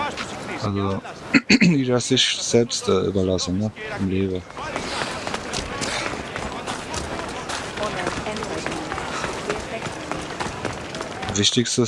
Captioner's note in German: räuspern